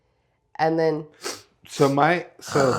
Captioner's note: sniff sniff grrrrr